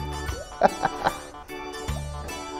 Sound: laughs

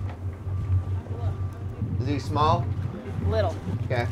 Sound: background chatter

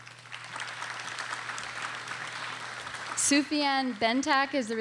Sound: audience applauding

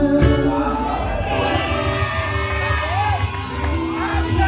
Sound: crowd cheering

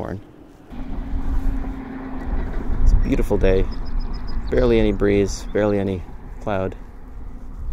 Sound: chirping bird

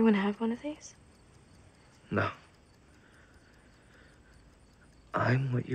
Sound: clock ticking

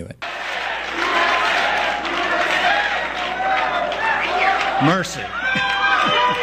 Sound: cheering

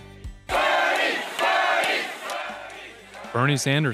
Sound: people yelling

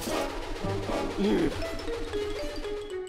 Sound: sighs

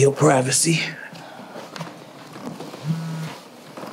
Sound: phone buzzing

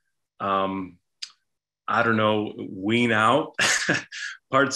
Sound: chuckles

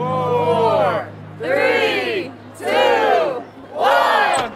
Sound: crowd

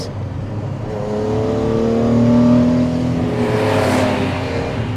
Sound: car engine roaring

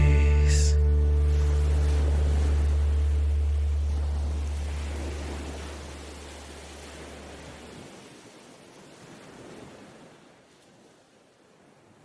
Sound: ocean waves

